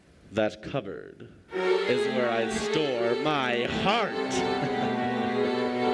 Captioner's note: wasp-like sounds become overwhelming